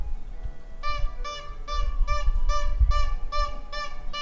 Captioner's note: horn beeps